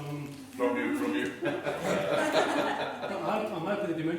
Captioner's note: laughing